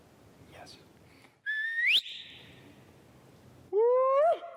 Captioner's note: whistles